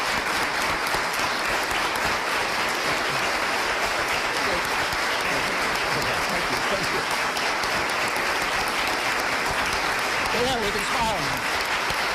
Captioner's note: applause